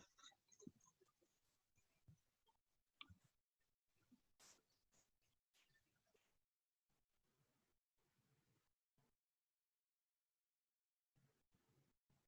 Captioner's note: silence